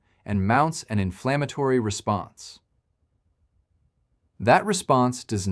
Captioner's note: pause